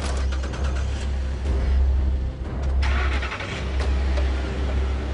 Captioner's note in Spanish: Sonido de las camionetas